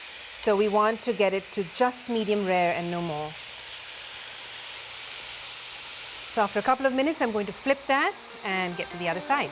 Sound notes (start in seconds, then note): 3.9 sizzling